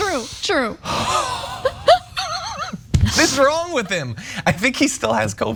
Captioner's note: laugh